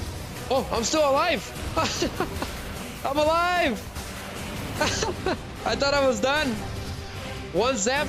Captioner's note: laughter